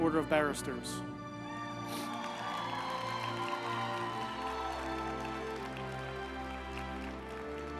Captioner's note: uplifting music; group applauding